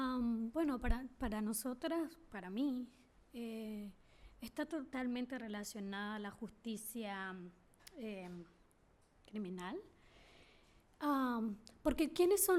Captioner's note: speaking spanish